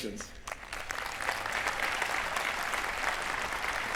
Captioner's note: applause